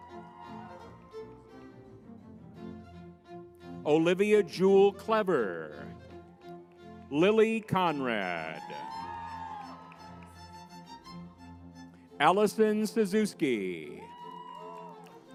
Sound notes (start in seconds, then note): 0.0 crowd cheering; 0.2 lively music; 8.8 crowd cheering